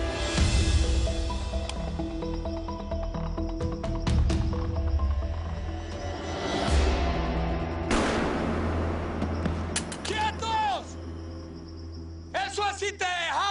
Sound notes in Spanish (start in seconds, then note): 7.8 Explosión